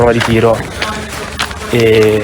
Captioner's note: steps